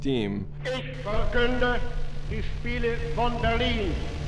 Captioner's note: Hitler speaking German